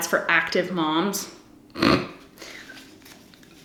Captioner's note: snorts